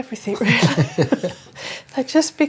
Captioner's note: both laugh